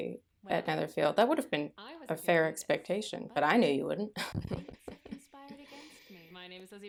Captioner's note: evil chuckling